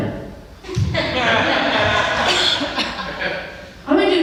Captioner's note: laughs